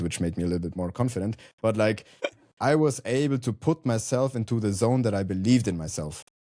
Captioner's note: chuckles